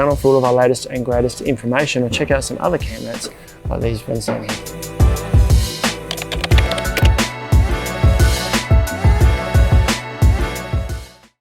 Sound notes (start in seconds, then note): 4.8 upbeat music playing; 5.9 computer keyboard keys typing; 7.6 upbeat music playing